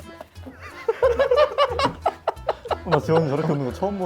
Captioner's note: the laughter doesn't stop